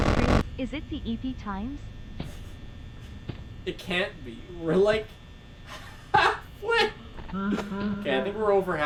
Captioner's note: laughs